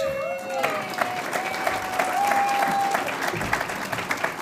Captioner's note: audience applauds